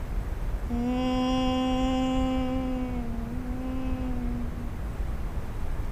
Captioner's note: presenter hums and vocalizes song